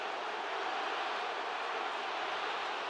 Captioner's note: crowd cheering